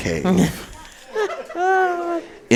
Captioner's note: laughs